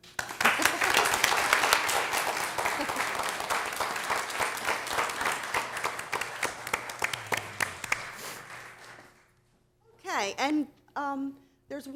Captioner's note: applause